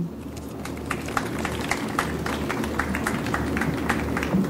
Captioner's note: audience applauds